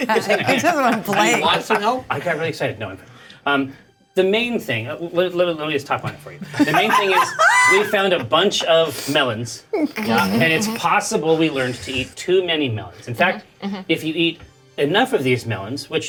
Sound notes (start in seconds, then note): 0.1 Bobby laughing; 6.4 players laughing